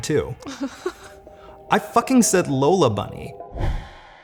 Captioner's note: laughs